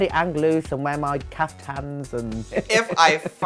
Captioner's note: chuckles